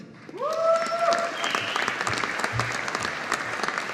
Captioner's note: audience applauding